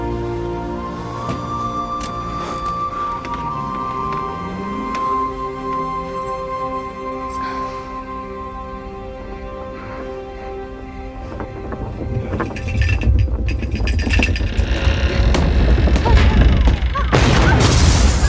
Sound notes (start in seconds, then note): 12.3 rumbling